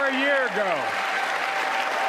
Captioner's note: applause